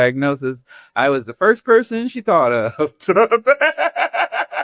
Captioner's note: laughs